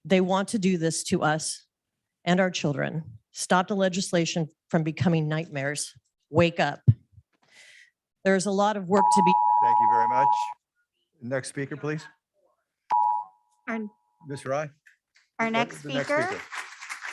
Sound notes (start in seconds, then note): 9.0 machine beeping; 15.6 audience clapping